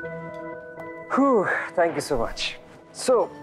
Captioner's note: Harish sighs